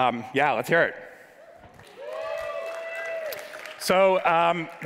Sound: audience cheers

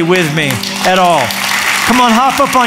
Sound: applause

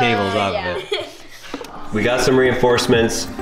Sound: laughing

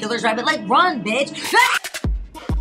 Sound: Justina screams; upbeat music playing

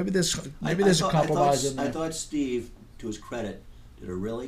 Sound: voiceover

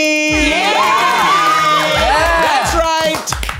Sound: audience cheers

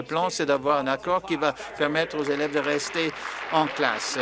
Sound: applause

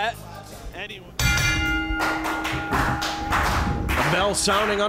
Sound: bell ringing

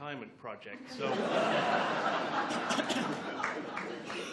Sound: laughs

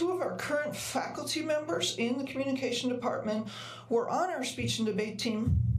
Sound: none

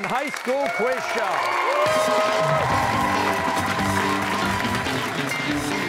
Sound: cheers and applause

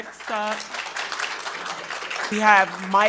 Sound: attendees applauding

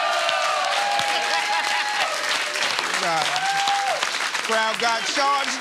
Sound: laughs

